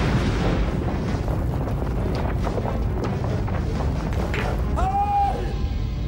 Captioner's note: falling rubble clattering; lightning cracking; thunder rumbling